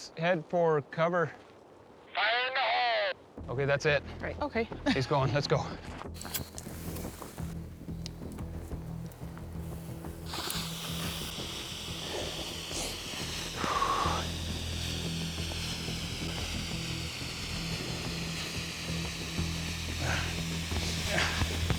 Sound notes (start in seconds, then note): 14.2 exhales; 21.6 running, panting